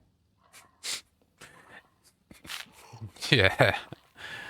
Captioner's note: chuckle